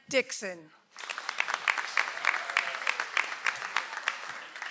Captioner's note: audience applauds